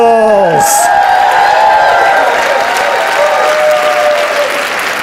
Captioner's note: audience applauds